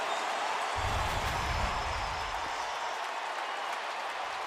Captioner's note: cheering